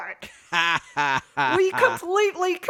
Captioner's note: cackles